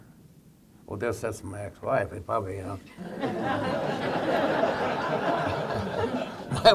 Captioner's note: laughter